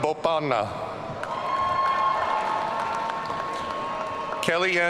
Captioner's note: audience cheering